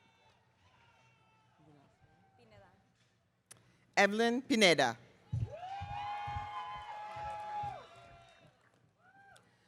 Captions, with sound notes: Evelyn Pineda. (audience cheering)